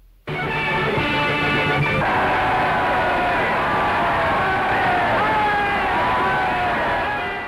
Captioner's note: cheers